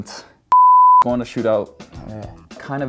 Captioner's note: beeping